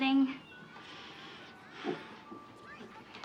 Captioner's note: sighs